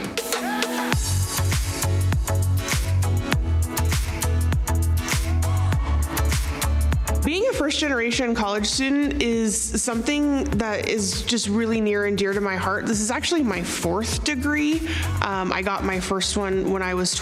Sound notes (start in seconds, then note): 0.1 upbeat music; 5.7 crowd cheering